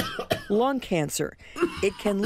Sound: troubled breathing. Coughing

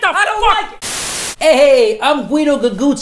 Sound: static hisses

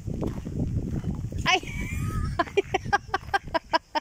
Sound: laughing

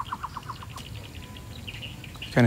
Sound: birds chirping

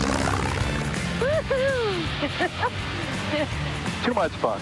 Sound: laughs

